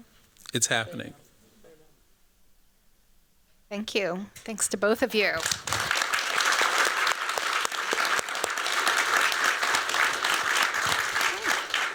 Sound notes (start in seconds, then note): 5.3 applause